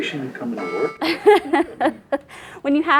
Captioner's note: laughing